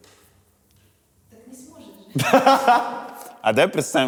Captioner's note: laughs